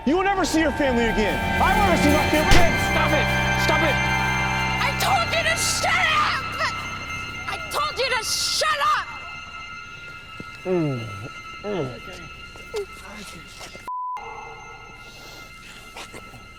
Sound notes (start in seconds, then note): 4.5 intense music; 10.6 moans; 11.7 Jen Whimpers